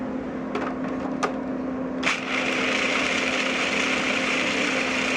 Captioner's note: food processor pulses